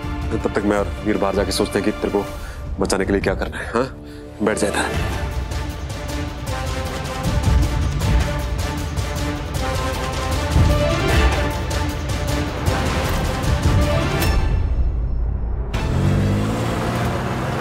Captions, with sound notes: Veer and I will go outside and think of something to save you. Huh? Sit here. [tense music playing] [car engine racing]